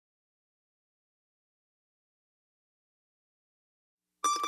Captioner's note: silence